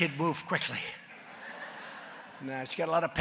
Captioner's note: laughter